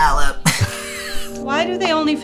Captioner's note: laughs